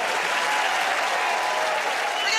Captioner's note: cheers and applause